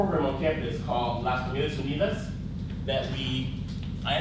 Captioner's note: speaks in foreign language